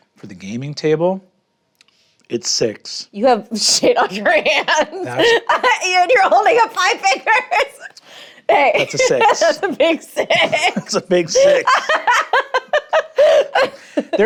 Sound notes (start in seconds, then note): 3.8 laughs; 12.1 laughs